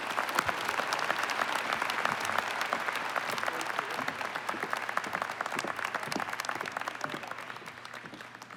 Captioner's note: applause